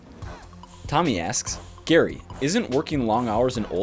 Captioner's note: voiceover